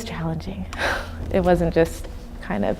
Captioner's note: sighing